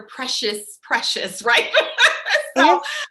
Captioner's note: laughs